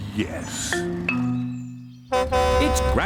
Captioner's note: horn honks